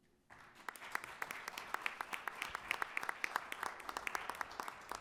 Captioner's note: attendees applauding